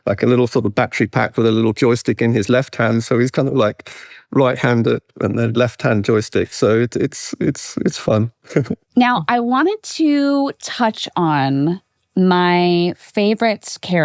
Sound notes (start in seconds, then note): 7.8 chuckles